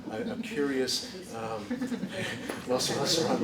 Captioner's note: laughter